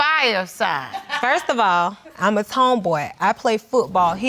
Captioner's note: woman in audience laughs